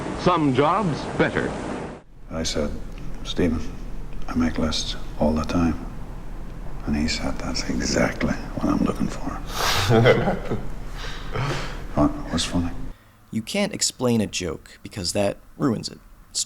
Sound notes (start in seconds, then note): 9.5 laughter